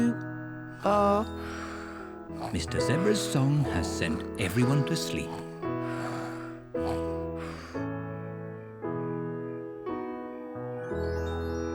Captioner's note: all snore